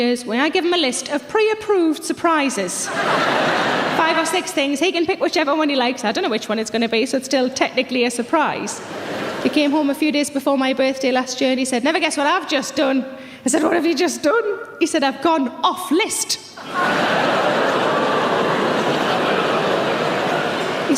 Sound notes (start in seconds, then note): 2.8 audience laughs; 8.8 audience laughs; 16.6 audience chatters